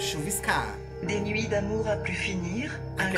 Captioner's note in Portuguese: narração em francês